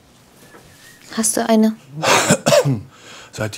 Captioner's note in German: Husten